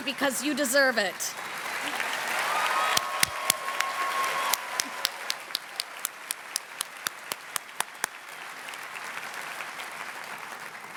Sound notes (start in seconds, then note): 1.3 cheering and applause continue